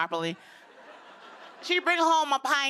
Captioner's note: laughter